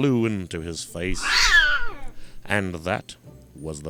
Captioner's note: cat screaching